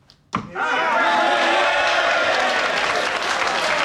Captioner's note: cheering